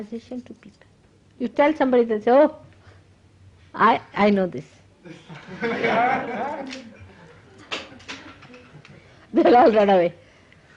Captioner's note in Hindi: हँसी